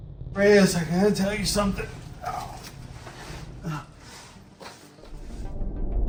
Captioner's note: groans; suspenseful atmospheric music